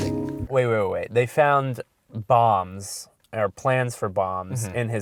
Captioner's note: voiceover